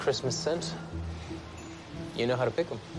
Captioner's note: none